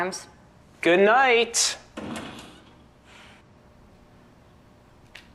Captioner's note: door slamming